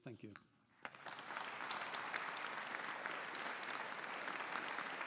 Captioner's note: audience applauding